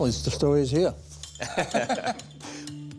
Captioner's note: laughter